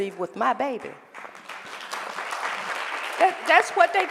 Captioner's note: applause